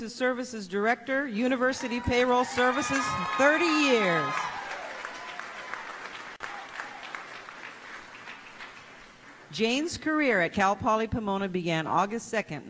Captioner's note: applause